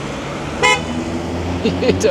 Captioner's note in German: Hupen